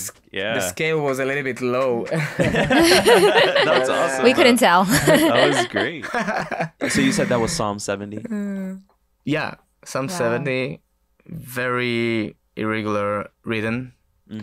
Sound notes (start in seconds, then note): 1.6 all laughing